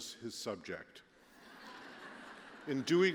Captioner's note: laughter